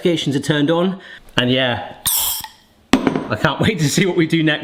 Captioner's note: gas hisses